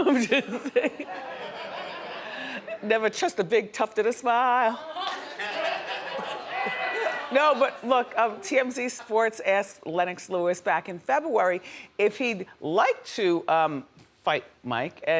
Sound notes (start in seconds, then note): 0.1 Wendy laughs; 1.9 audience laughs; 4.9 audience laughing